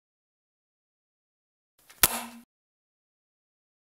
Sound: sound of light on

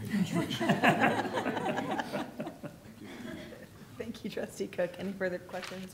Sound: laughter

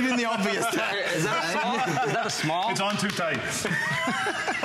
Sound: laughter

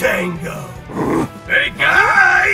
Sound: big Goblin Grunt

